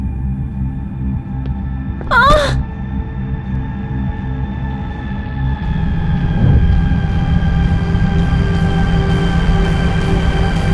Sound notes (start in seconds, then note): 2.0 trips